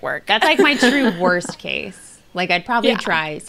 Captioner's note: they laugh